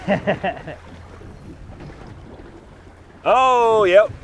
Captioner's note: laughs